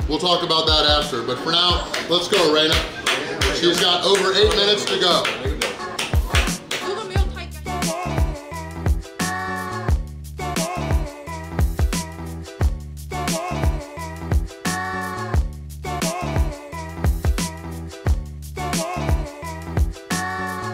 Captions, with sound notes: We'll talk about that after but for now, let's go, Raina. (applauding) She's got over eight minutes to go. (lively bouncy music)